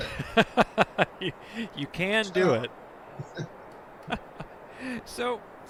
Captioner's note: laughs; laughs